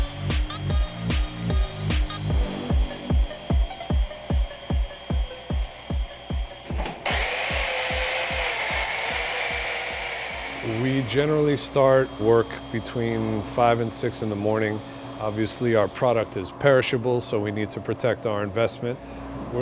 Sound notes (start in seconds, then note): 0.2 upbeat music; 7.1 machine whirring